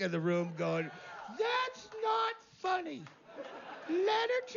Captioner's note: voz aguda